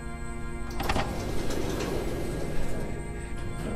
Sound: door opens

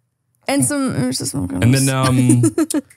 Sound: chuckles

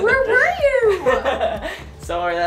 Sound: laughs

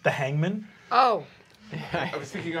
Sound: laughing

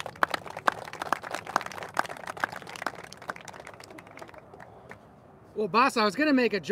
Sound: applauses

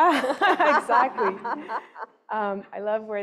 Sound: laughing

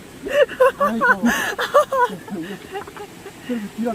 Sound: laughing

